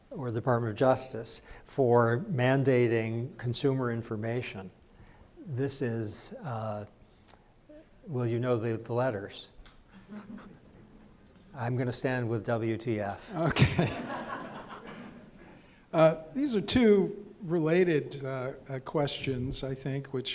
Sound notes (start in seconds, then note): 13.4 crowd laughs